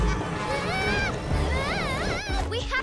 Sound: screaming

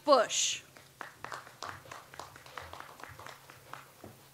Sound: audience applauds

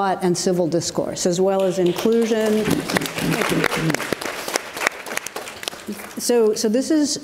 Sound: audience applauds

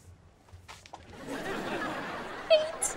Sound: laughing

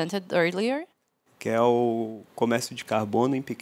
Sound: non-english speech

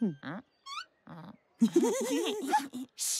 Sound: giggling

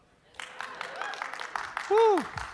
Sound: applause

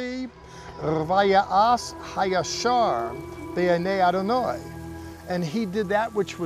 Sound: speaking in Hebrew

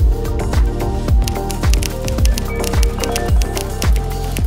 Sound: typing

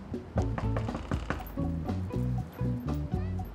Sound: knocks door

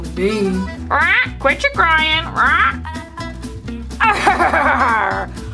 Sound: squawks

